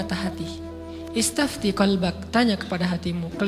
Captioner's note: Arabic